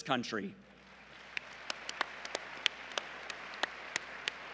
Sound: applause

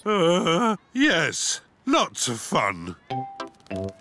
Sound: groans

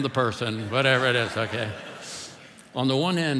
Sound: congregation laughing

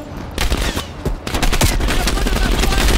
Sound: gunshots

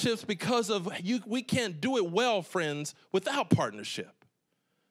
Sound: none

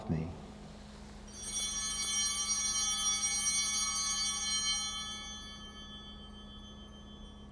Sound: bells ringing

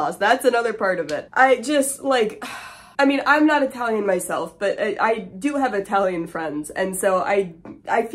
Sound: sigh

